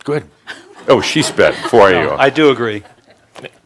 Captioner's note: some chuckles